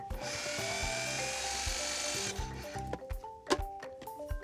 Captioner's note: food processor mixing